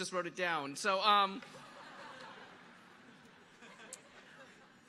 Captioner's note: audience laughing